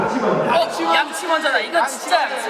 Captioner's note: all shout out brush first